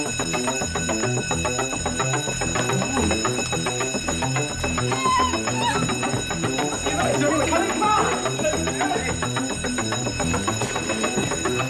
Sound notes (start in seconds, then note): 4.8 student crying; 8.7 dramatic music